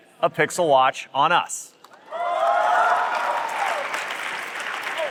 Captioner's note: applause